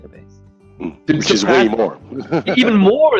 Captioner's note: laughing